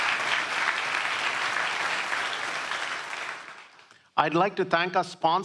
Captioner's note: applause